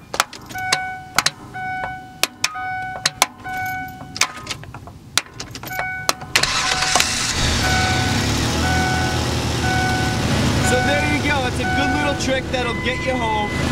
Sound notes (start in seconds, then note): 0.1 hammer bangs on starter, bell chiming; 5.2 banging continues; 6.3 engine starts; 7.9 engine idling